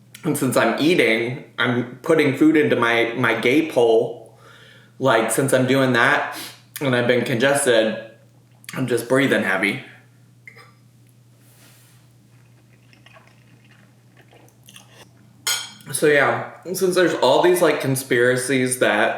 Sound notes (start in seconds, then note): 12.2 chews